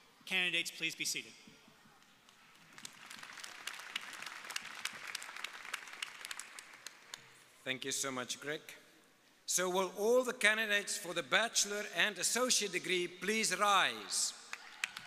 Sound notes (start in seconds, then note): 2.6 audience applauding